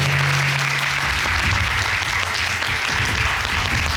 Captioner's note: applauding